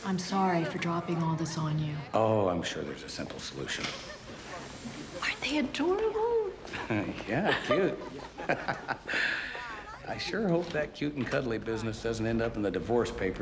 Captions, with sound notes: - I'm sorry for dropping all this on you. - Oh, I'm sure there's a simple solution. - Aren't they adorable? - Yeah, cute. (chuckling) I sure hope that cute and cuddly business doesn't end up in the divorce papers